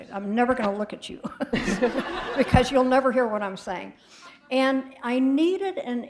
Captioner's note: laughter